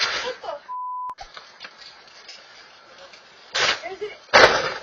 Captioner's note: beep